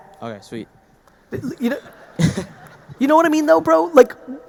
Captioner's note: audience laughing